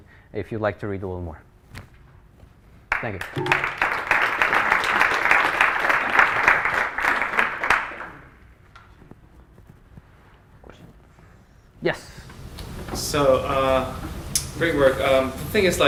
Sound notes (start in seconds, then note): 2.9 applause